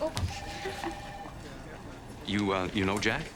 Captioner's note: Penny giggles